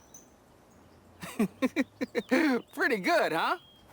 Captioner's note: LeVar laughs